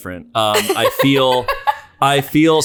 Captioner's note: laughter